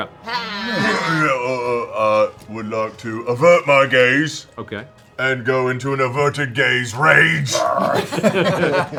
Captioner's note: growls; laughter